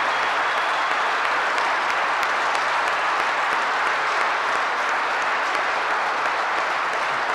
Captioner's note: applause